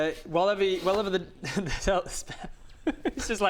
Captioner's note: giggles